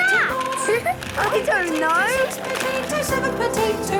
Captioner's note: laughing